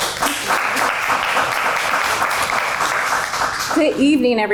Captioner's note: applause